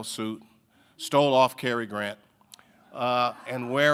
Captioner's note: audience laughing